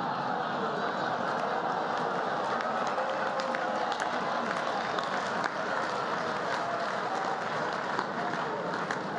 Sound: laughter and applause

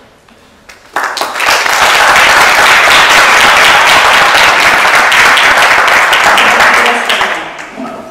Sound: applause

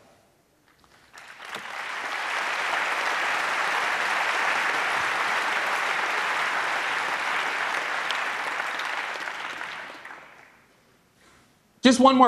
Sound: applause

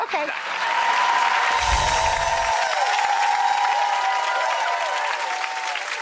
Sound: audience cheering and applauding

